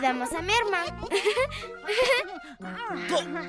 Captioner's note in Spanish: Millie y Pearl se rien